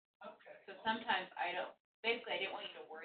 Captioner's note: woman's Voice